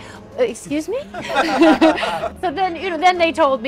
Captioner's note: people laughing